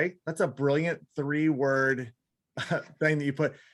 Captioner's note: laughs